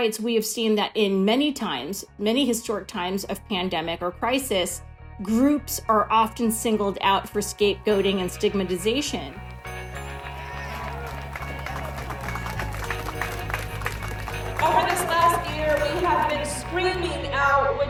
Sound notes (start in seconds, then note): 9.4 crowd cheering